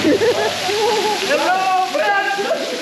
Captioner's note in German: Grölen, Lachen